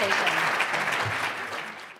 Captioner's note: audience applauding